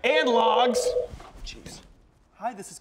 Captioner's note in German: Telefon klingelt